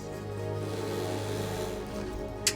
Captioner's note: vacuum humming